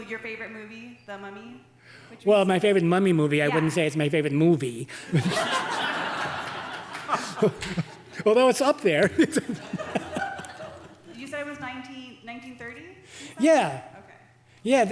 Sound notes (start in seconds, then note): 5.0 audience laughing